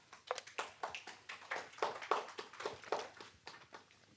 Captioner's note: applause